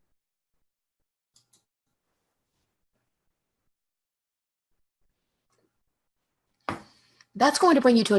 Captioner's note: mouse clicks